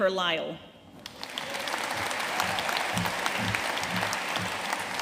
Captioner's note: audience applauding